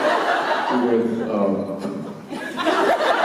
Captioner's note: Jensen laughs